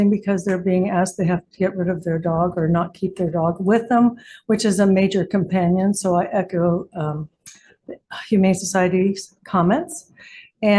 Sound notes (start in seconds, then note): none